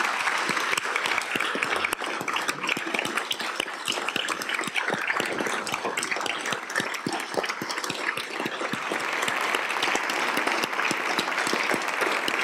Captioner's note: applause